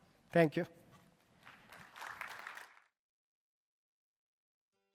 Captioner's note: applause